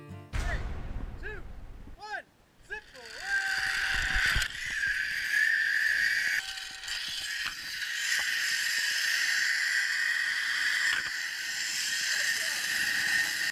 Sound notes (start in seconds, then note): 3.2 male sceaming; 5.4 metallic scraping noise